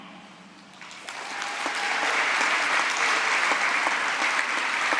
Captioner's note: applause